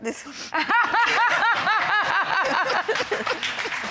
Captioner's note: laughter